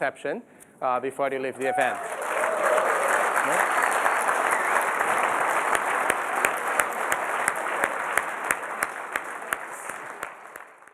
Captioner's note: applause